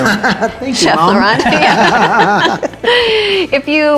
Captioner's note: laughing